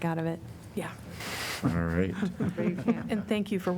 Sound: laughter

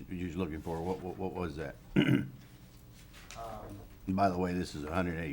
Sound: clears throat

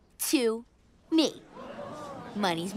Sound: crowd gasps

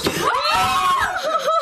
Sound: screaming; loud thumping

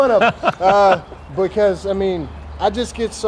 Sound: laughter

